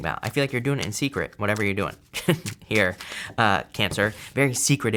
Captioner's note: chuckles